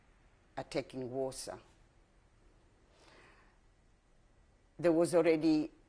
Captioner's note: pauses for 3 seconds